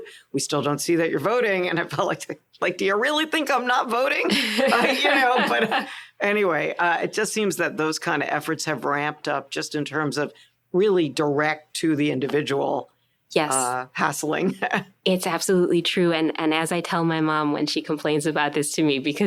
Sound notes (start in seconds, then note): 4.3 laughter